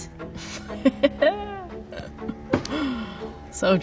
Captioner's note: laughing